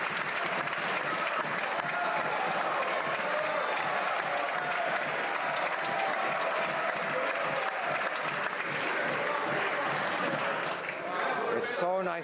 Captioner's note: some Applause